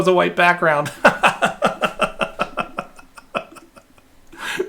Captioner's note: laughing